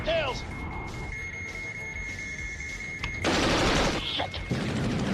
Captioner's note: target system beeping